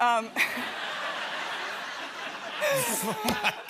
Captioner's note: laughter